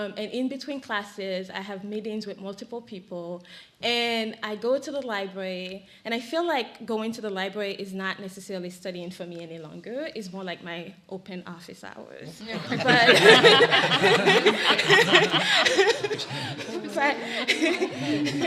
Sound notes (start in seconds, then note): 12.4 laughs